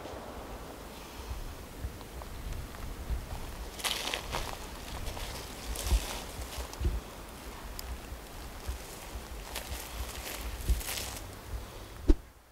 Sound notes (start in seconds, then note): 0.0 natural noises